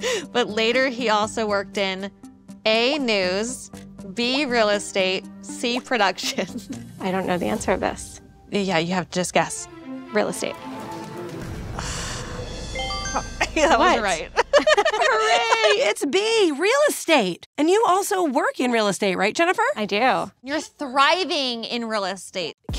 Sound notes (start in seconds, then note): 11.7 Ashley sighs; 12.4 buzzer bleeps; 13.4 laughs